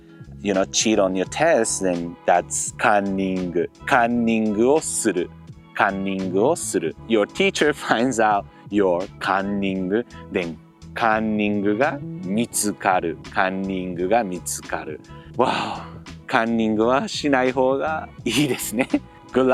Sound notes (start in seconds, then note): 15.2 sigh